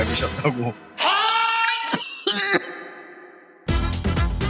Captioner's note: cough